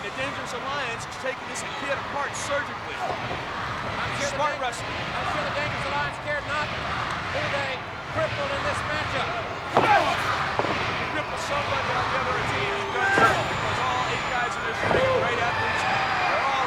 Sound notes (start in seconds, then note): 9.9 grunts